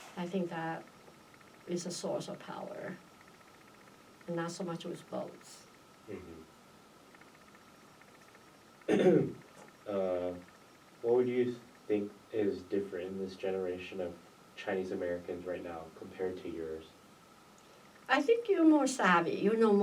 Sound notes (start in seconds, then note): 8.9 clears throat